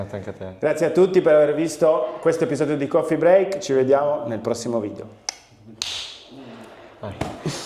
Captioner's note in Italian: sbuffare